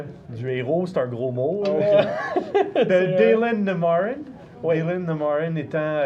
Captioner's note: laughs